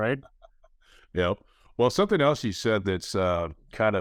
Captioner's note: chuckles